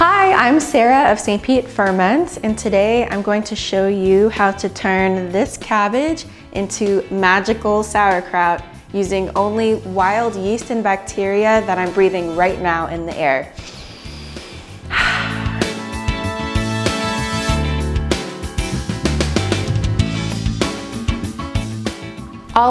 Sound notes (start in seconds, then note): 13.5 breathe sounds